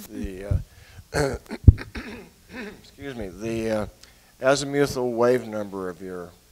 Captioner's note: clears throat